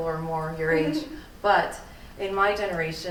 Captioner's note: laughing